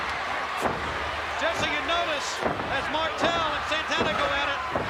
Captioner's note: applause